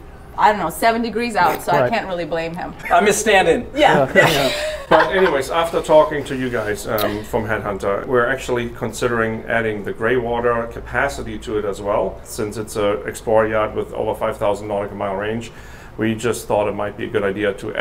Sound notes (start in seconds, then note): 3.7 laughing